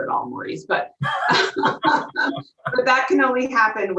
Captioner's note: both laughing